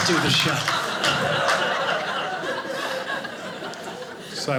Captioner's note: audience laughing